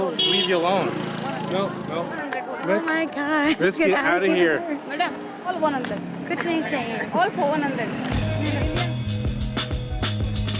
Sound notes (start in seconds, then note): 5.3 in foreign language